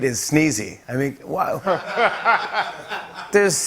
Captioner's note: laughter